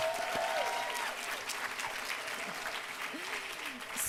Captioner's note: applause